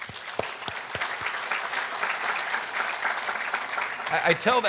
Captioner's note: applause